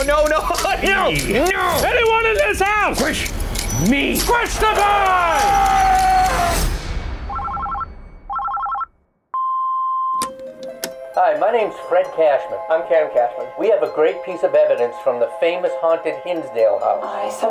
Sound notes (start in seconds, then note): 1.0 laughs; 5.9 screaming; 8.2 phone ringing